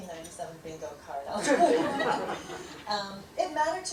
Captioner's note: laughter